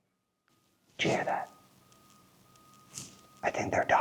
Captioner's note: low beeping